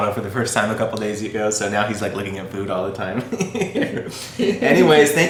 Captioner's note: chuckles